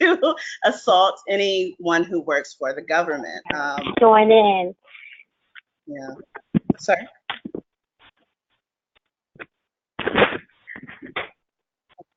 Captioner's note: background distortion